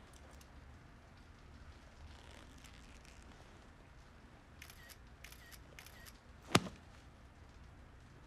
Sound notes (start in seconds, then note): 4.6 phone camera snapping